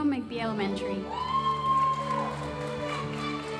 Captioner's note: audience applauding